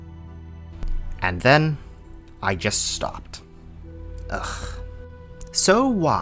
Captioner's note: sigh